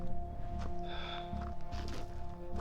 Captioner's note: exhales